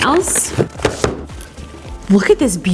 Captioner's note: box thuds